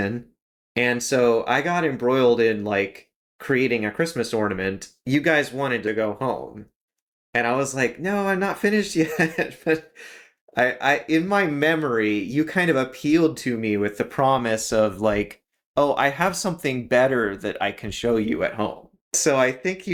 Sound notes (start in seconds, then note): 9.0 laugh